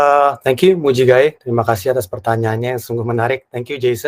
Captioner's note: non-english speech